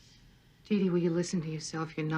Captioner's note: on TV